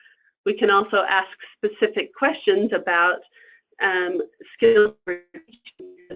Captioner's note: static